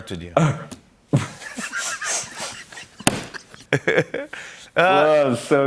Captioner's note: laughter